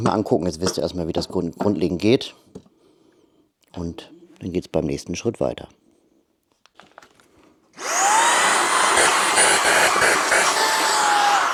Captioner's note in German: schreien